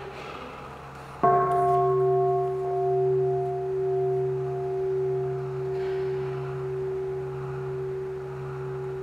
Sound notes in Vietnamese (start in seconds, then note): 1.2 chuông